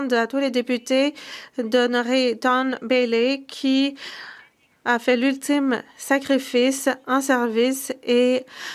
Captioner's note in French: voix de l'interprète